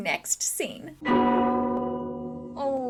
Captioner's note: dong